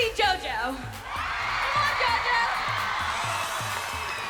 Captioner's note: audience cheering